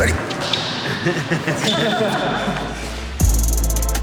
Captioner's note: laughing